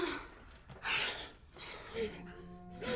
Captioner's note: woman panting; suspenseful music